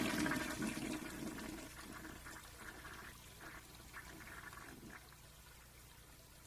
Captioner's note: flush